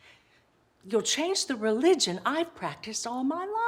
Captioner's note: none